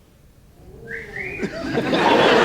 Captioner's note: man whistles; audience laughs